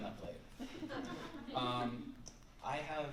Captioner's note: laughter